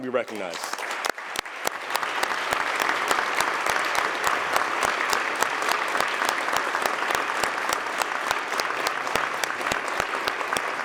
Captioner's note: applause